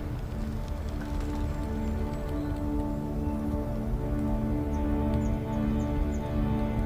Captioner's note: birds chirping